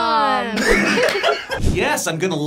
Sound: laughs

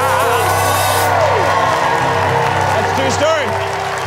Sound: audience cheering

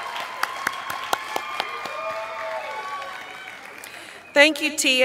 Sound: applause

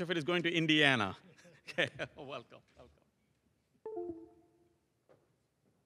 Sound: laugh

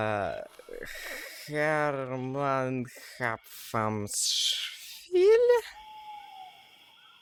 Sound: struggling to read

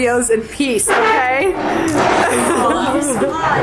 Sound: chair scraping on floor

